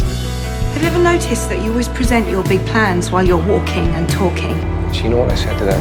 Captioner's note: voiceover